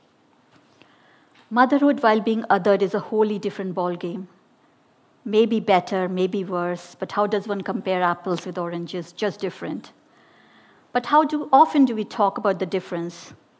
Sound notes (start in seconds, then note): none